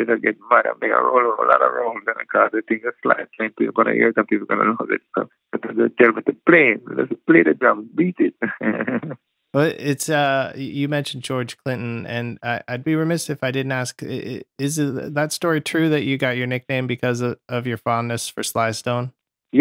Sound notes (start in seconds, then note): 8.4 laughter